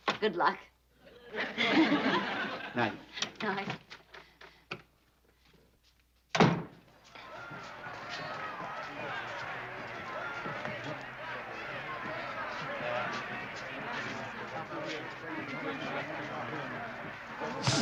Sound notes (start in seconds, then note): 9.0 chatter